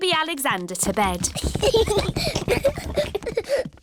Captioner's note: children giggling